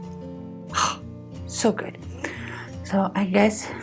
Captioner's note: exhales